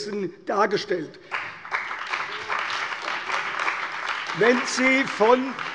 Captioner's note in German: Beifall bei der CDU und dem BÜNDNIS 90/DIE GRÜNEN